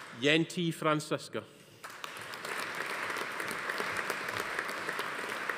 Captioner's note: audience applauding